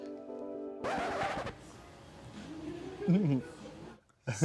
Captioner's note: needle scratching